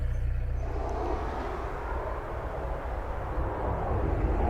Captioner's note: roars